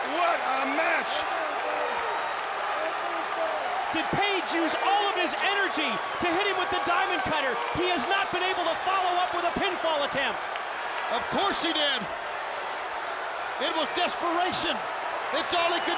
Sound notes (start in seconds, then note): 2.7 crowd cheering